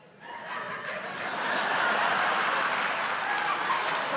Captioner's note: laughter